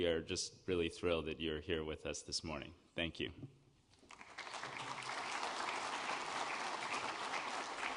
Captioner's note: applause